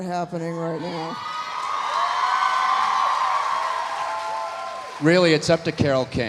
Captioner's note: audience cheering; audience applauding